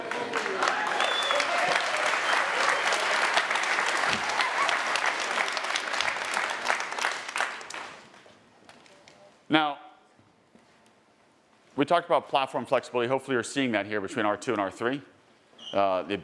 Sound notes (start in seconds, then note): 0.0 attendees cheering and applauding; 4.2 car door thuds